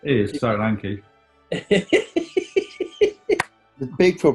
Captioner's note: giggling